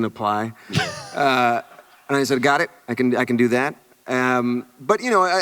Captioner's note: Hardwick chuckles